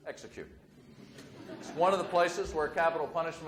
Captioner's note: audience laughs